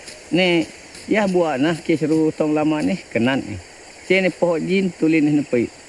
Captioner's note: speaking in foreign language